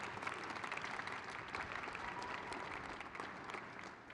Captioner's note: crowd cheers